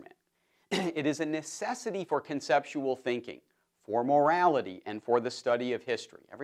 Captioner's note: cough